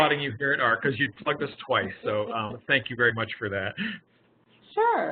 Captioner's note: laughing